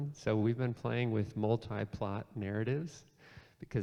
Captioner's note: none